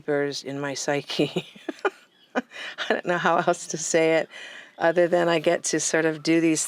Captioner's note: laughs